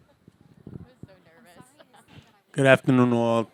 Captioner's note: chuckles